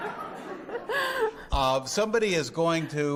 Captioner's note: audience laughing